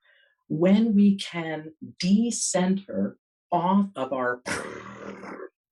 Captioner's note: blows raspberries